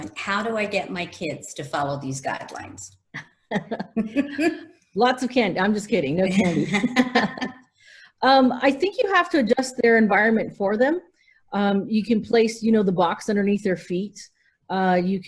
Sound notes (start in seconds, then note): 3.1 laughter; 6.3 laughs